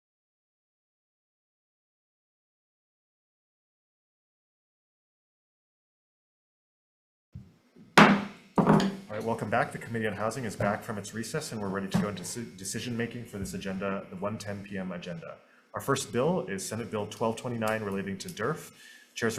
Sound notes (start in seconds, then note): 7.9 gavel bangs